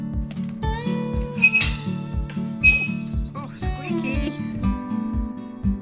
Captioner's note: gate squeaks